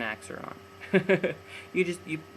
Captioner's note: laughs